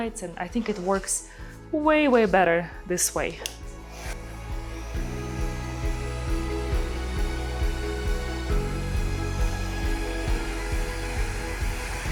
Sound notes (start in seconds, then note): 4.0 dryer whirring; 4.5 bright music